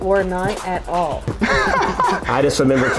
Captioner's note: group laughing